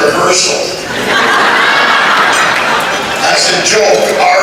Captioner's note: laughter